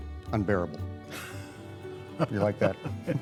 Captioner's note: laughter